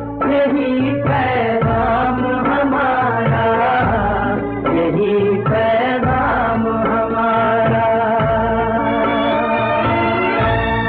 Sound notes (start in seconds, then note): none